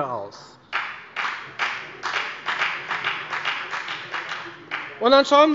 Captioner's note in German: Beifall bei der FDP